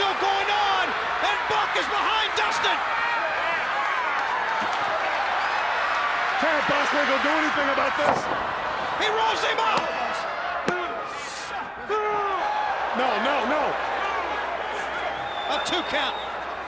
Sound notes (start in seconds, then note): 4.0 crowd chatter